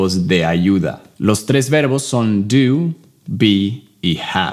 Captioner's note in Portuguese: Inglês